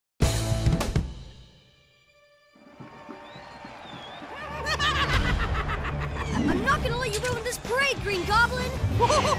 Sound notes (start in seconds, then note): 2.6 crowd cheering; 4.4 Green Goblin laughing; 8.9 maniacal laughter